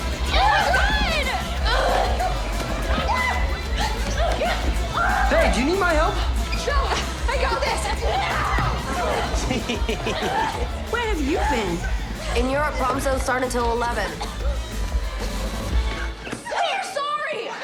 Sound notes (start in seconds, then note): 1.4 grunting; 9.2 chuckles